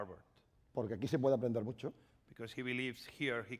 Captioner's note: speaking spanish